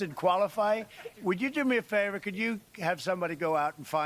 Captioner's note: laughs